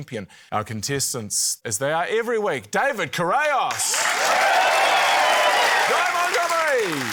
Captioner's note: cheering, applause